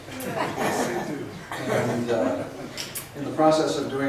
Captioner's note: voiceover